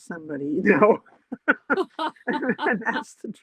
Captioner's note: laughter